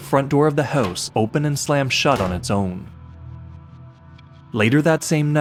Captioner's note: door opening and slamming closed